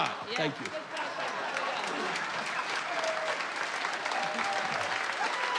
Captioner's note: applause and cheers